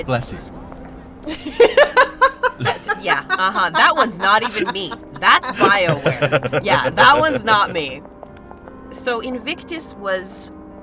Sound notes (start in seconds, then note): 1.3 laughs